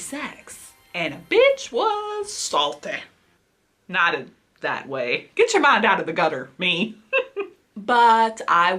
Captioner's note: laughs